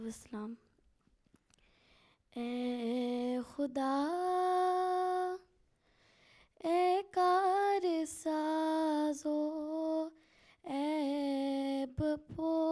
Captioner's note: Urdu recital of poem